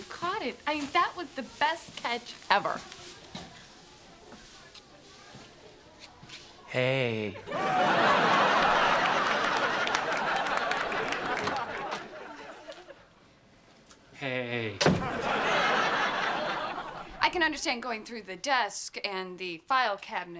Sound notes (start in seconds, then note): 14.8 door slams